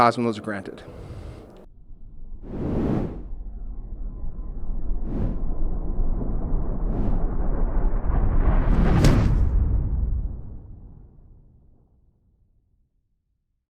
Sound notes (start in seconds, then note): 2.6 quiet whooshing; 8.9 loud whooshing